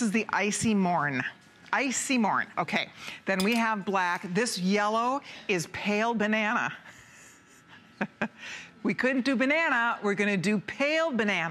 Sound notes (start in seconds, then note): 7.9 laughter